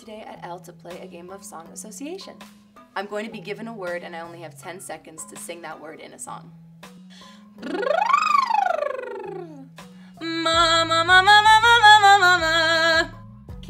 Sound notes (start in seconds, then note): 7.5 lips vibrating